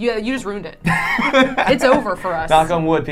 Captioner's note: laughing